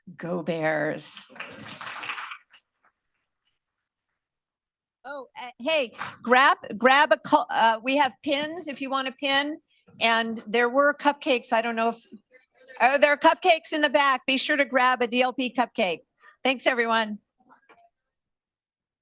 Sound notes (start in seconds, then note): 1.2 applause